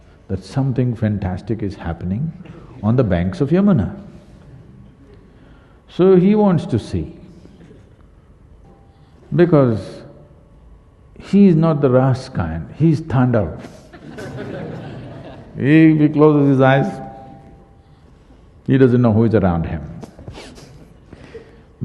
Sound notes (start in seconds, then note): 13.7 laughter; 20.8 laughs